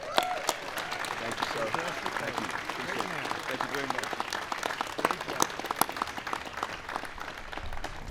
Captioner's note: applause